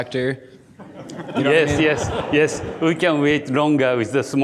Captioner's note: audience laughing